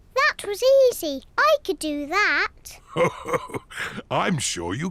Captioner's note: chuckles